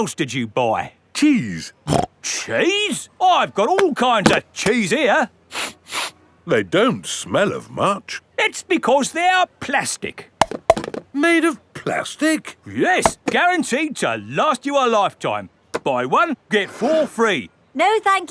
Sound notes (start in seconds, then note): 1.9 snorts; 5.5 sniffs; 10.4 clunks